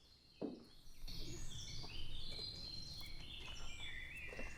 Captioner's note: birds chirping